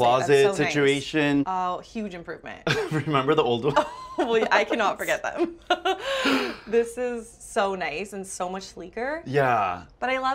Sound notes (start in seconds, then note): 2.6 both laugh; 2.7 laughs